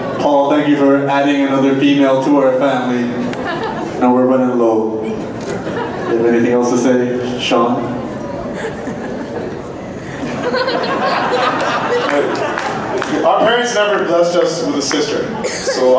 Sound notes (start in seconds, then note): 10.1 laughing